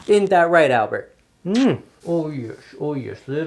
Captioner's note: lips smooching